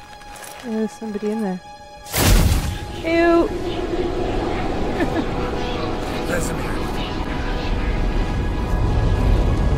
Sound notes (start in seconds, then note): 4.9 laughing; 9.5 ominous music